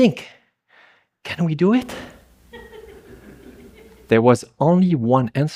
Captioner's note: giggles